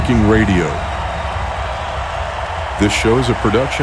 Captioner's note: crowd cheering